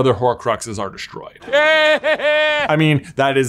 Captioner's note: Voldemort laughing